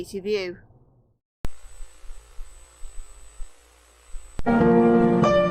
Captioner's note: white noise